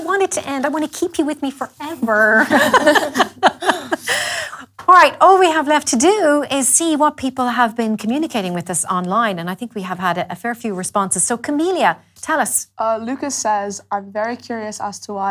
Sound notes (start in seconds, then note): 2.4 laughes